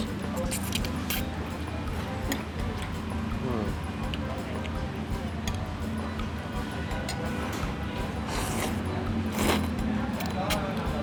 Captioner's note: slurping again